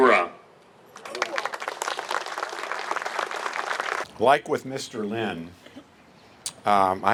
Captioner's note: appluse